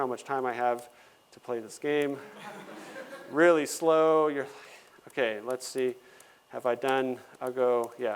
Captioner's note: laughter